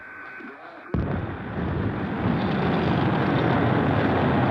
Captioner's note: rocket boosters igniting